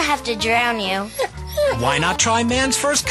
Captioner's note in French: Le chien gémit